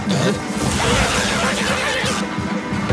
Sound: zapping

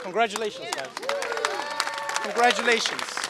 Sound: applause

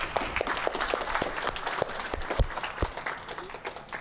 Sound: applause

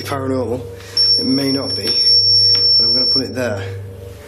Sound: loud beeping

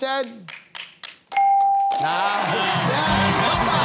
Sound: cheering and applause

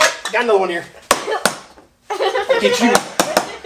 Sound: hammer banging; assistant giggles

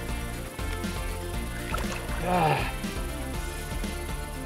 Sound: water splashing

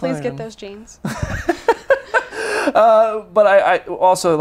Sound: laughs

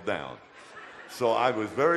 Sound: audience laughter

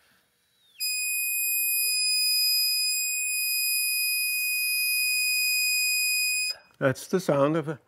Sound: whistling

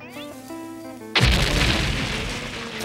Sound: explosion

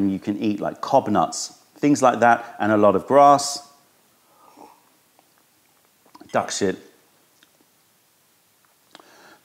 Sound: sips tea

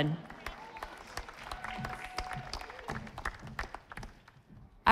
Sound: audience applauding

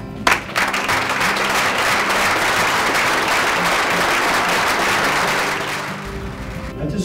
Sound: applause

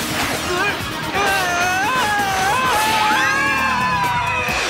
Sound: screaming

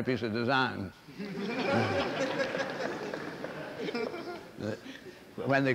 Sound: laughter

